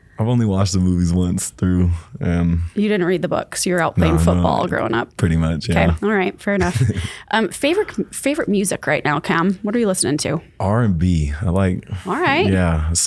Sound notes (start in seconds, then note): 6.6 laughs